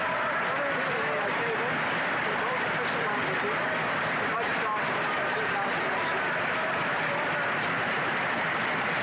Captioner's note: applause